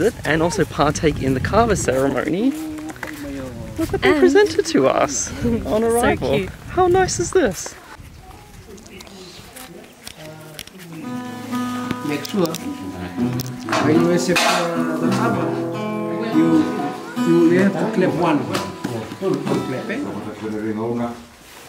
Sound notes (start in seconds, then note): 12.3 speaking in foreign language